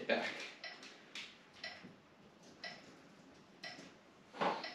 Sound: metronome ticking

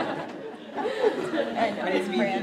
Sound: laugh

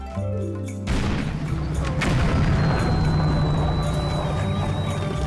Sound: explosion noises

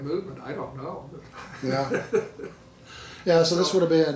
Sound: laughing

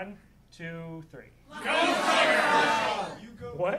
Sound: audience members shouting

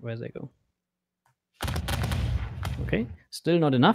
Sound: volley of booming sounds

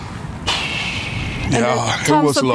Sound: exhaling

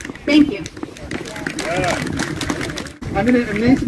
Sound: applause

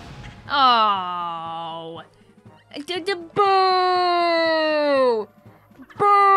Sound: laughing

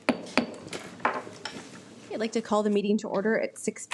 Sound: gavel bangs

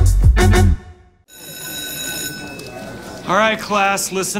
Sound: bell ringing

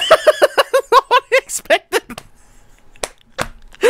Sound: chuckling

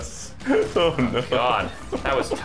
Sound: laughing

